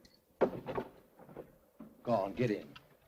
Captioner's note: door unlocks